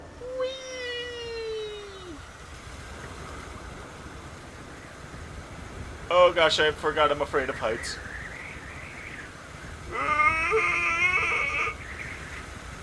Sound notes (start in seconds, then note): 9.6 terrified noises